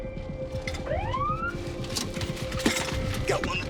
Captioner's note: siren wailing